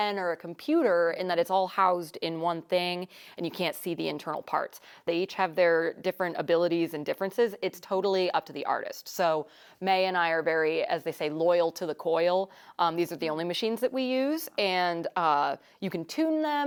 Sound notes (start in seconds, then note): none